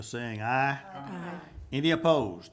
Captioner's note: group chanting